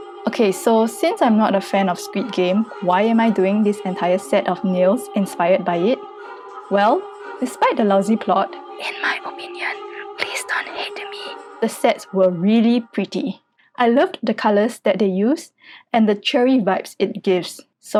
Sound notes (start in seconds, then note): 8.8 whispers